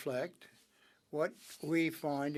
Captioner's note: speaking French